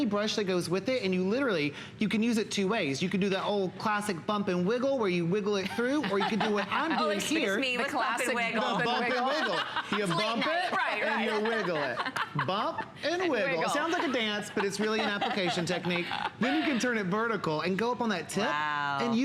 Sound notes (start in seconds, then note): 9.0 laughter